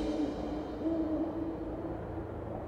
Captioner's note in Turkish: Baykuş ötüyor